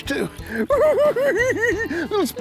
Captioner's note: giggling